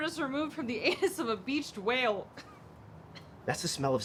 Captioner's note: coughs